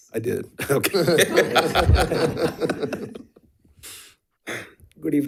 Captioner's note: members laughing